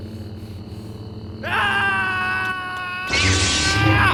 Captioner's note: yelling